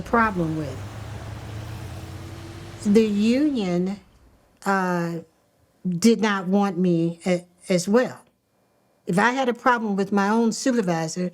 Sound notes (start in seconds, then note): none